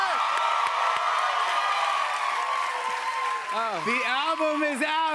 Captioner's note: cheers and applause